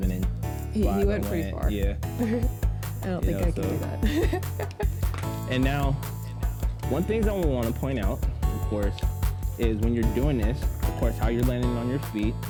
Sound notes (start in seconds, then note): 2.2 giggles; 3.4 laughs